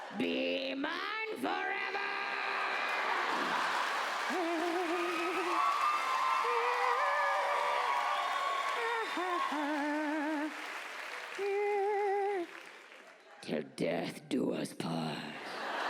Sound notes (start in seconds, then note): 4.6 hums wedding march